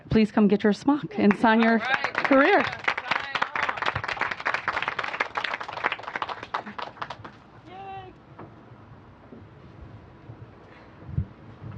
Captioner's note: applause